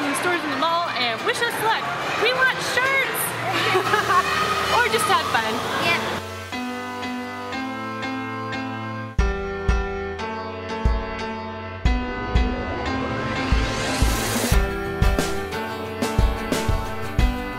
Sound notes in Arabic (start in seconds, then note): 3.4 يضحك; 7.0 الموسيقى متفائلا